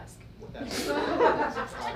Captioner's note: audience laughs